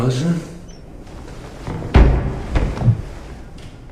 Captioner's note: knock